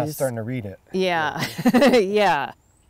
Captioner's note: laughs